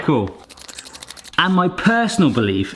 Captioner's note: handle rapidly turning